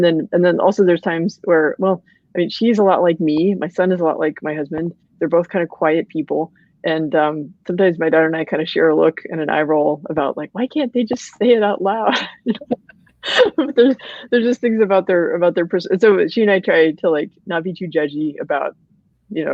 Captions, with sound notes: Also there's times where, she's a lot like me my son is a lot like my husband, they're both kind of quiet people. Sometimes my daughter and I will share a look and an eye roll about like, "Why can't they just say it out loud?" (laughing) So, she and I try to not be too judgey.